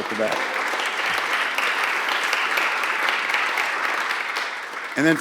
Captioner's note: applause